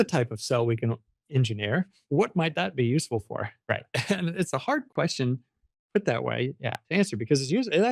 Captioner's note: laughs